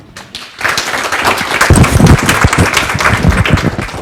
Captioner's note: audience applauding